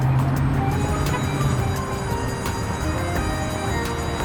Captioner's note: school bell chimes